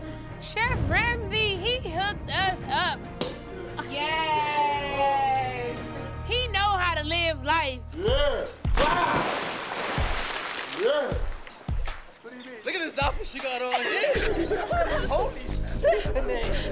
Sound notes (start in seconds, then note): 2.8 cork pops; 8.7 water splashes; 13.6 laughter